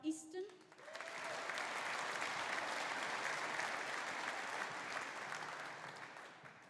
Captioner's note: audience applauding; audience cheering